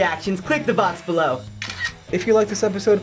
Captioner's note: camera snaps